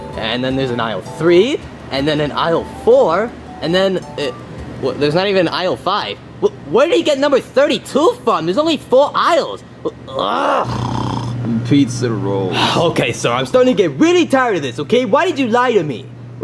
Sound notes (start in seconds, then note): 10.6 snoring